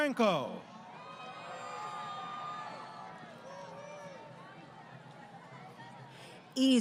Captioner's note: crowd Cheering